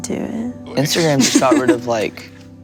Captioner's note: laughs